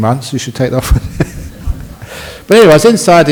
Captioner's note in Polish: śmiech